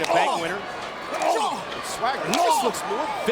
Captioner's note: Swagger grunting